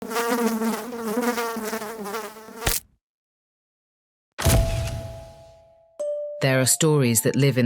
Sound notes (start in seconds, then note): 0.0 fly buzzing; 2.6 fly splatting